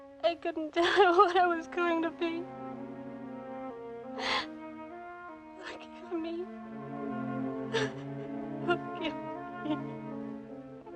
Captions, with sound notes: I couldn't tell her what I was going to be. Forgive me. [ Weeping ] Forgive me.